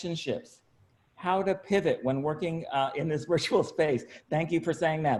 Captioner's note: laughs